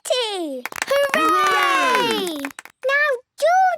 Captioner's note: cheering, clapping